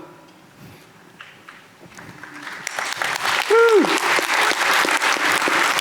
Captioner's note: audience applauding